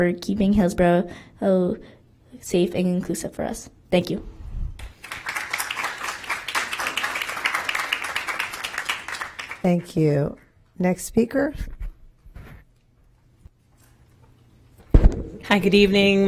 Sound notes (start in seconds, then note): 9.1 applause